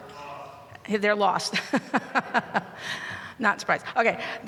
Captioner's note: laughs